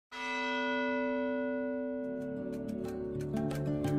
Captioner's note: bell Toll